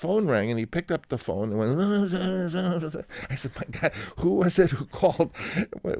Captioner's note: imitating Italian accent